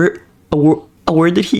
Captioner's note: stutter Moment